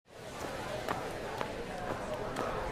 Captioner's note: chatter